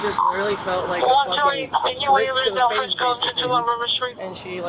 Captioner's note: radio chatter